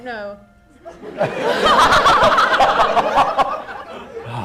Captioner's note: laughter